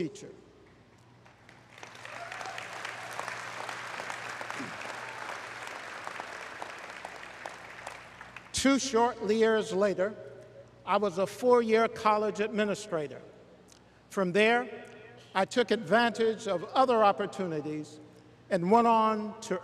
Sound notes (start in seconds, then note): 4.4 applause